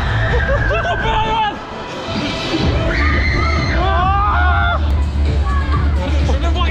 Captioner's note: screams